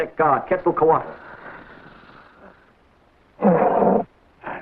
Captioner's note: serpent hisses and rattles; serpent growls